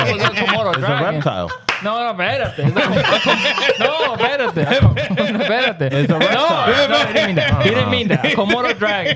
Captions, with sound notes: (Speaking In Foreign Language) No, a verite. (Laughing) No, verite. (Speaking In Foreign Language) No, no, he didn't mean that. Komodo dragon.